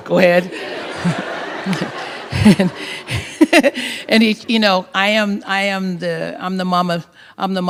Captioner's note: laughter